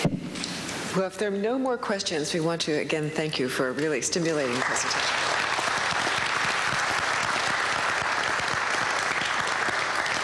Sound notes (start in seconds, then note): 4.4 applause